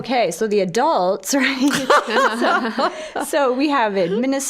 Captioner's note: all laughing